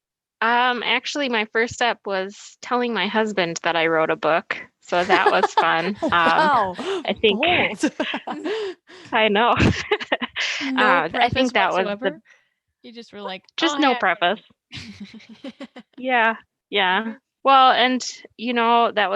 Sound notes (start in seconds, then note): 7.7 all laugh